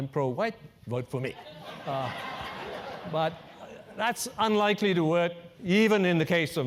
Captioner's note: laugh